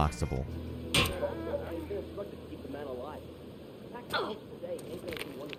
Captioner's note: bystanders chattering; rake thuds